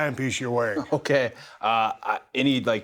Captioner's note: chuckles softly